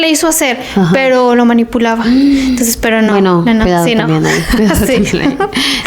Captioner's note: laughs